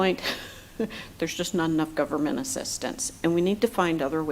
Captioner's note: laughs